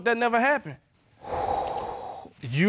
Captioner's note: exhales